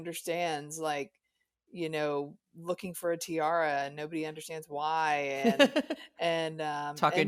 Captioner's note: chuckles